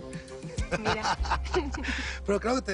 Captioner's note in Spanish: Risas